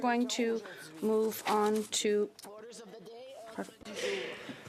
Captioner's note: speaking French